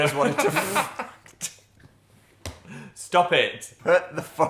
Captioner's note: Dan and Phil laughing